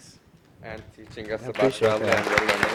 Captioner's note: applause